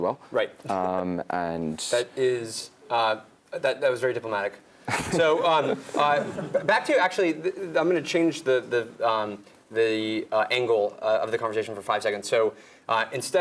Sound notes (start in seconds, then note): 4.9 laugh